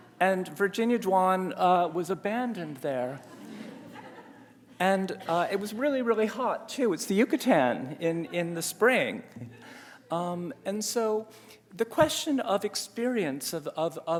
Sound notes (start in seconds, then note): 3.2 audience laughs